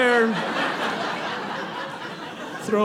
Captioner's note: audience laughing